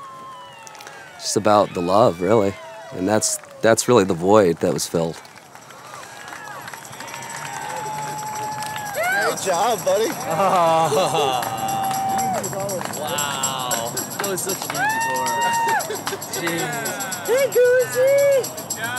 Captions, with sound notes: It's just about the love, really. And that's really the void that was filled. (applause) - Great job, buddy. - Ha ha, wow. (cheers)